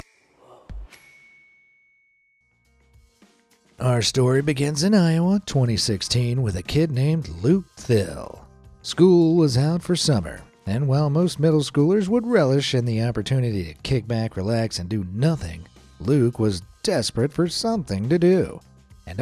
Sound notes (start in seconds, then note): 0.9 bell dings